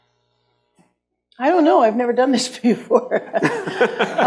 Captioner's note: laughs